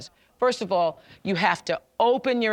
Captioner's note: none